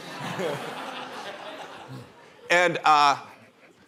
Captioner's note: laughter